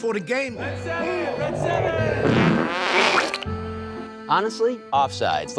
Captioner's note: loud flatulating